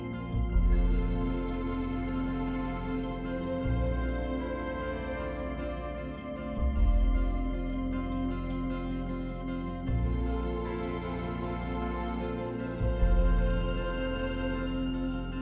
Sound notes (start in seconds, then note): none